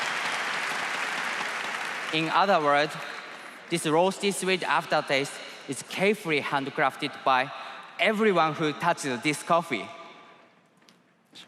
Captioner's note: applause